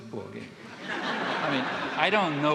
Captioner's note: audience laughing